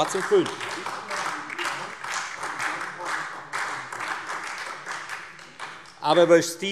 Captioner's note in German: Beifall Freie Demokraten, SPD und vereinzelt AfD